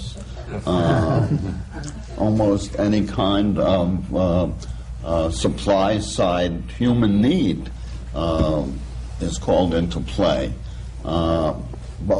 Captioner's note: laughter